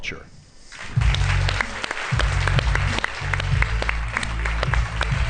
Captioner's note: applause